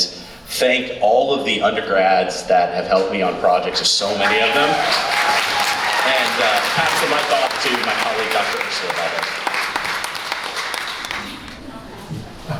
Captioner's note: applause